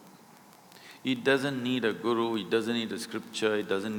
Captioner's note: none